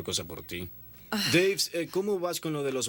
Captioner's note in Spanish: Jodie suspira